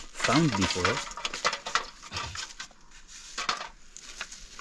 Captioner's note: metal clanking